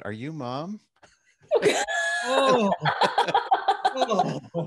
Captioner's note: all laughing